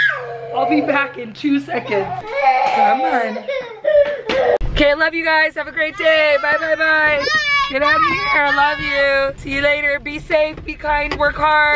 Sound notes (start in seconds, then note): 1.8 crying